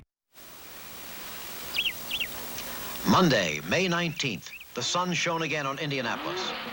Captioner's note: bird chirping